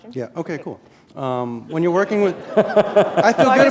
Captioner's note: laughter